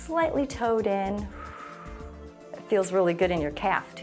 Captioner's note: exhales